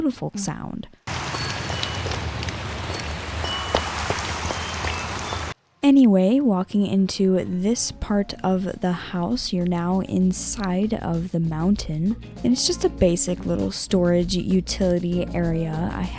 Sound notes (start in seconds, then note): 1.0 rain; 1.1 Amethyst Chiming